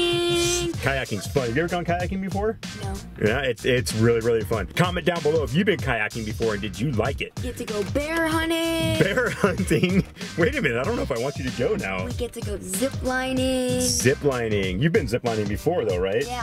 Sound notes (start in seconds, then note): 8.6 laughs